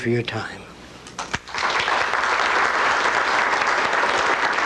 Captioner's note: applause